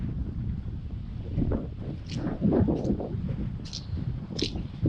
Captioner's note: listen to squid squirting water